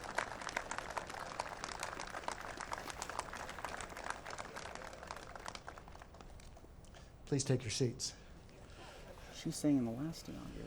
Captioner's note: applause